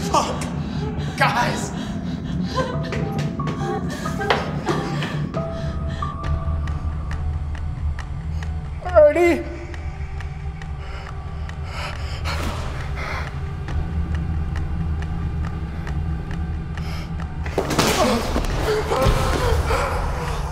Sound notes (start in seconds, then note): 9.8 heavy breathing; 10.8 light dramatic music; 17.8 Nate groaning